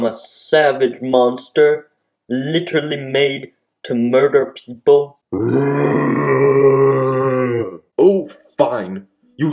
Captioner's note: roar